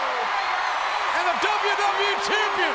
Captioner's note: audience cheers